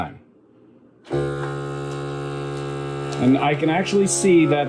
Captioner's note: sealer buzzing loudly